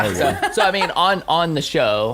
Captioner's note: laughter